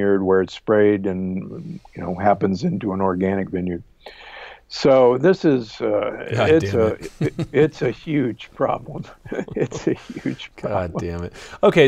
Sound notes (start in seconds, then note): 9.0 both chuckling